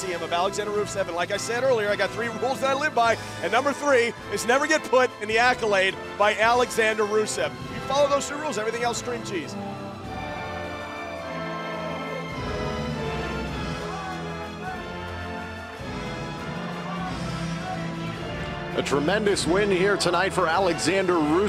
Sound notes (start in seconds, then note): 13.9 crowd cheering